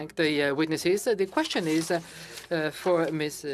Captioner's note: speaking French